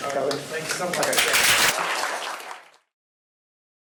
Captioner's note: applause